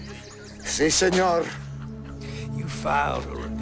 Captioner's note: Gonzalez speaking in foreign language